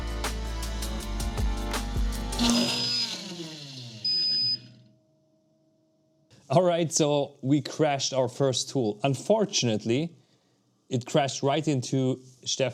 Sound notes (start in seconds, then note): 0.0 upbeat music; 2.3 drill whirring